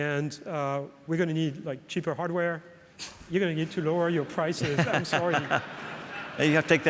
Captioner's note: laughs